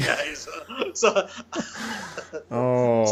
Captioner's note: both chuckling